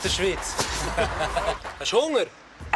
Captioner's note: laughs